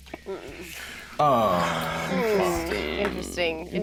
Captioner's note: group groaning